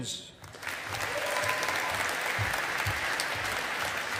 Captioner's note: audience applauding